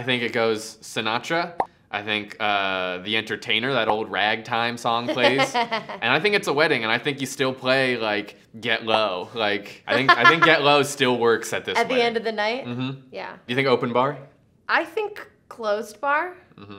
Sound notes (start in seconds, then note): 5.1 laughs